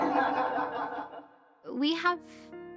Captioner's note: class laughing